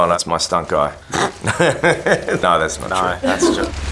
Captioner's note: laughing